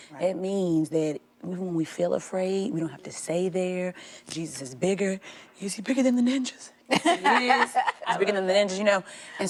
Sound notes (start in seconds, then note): 6.8 laughing